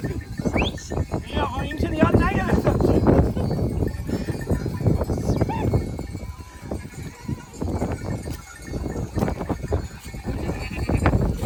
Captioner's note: whistles again several times